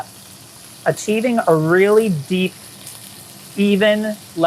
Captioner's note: meat sizzling